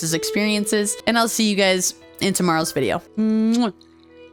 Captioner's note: kiss